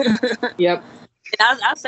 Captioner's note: laughing